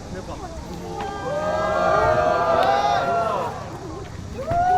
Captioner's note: cheering